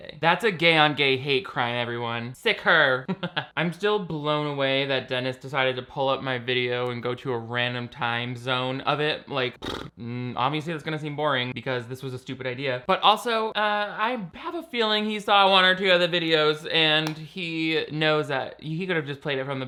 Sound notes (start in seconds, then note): 2.9 laughs; 9.6 blows raspberry